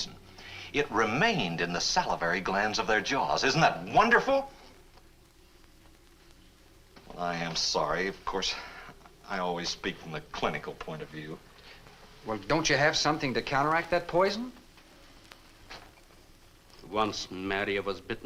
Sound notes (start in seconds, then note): none